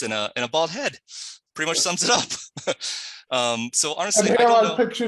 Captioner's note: laughs